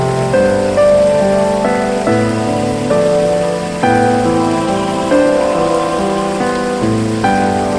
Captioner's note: waterfall